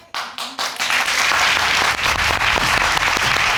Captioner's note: audience clapping